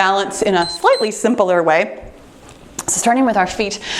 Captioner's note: timer beeps